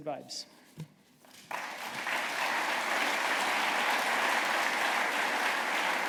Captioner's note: applause